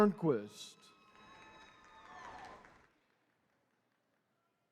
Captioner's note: attendees cheering